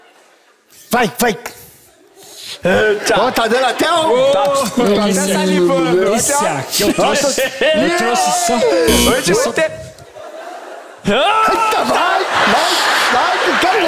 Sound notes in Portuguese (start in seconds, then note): 8.9 campainha